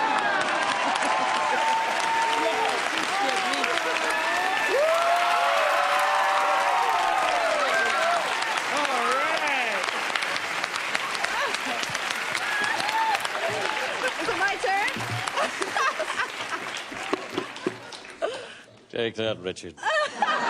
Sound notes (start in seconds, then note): 0.1 cheers and applause; 15.2 laughs